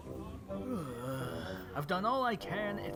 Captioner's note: man sighs